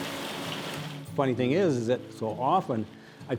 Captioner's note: steam hissing